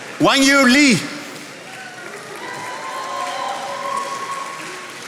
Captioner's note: attendees applauding